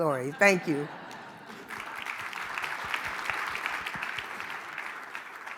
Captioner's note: audience clapping